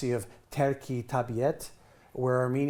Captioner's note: speaking in foreign language